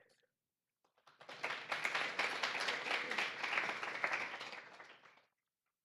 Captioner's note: audience applauding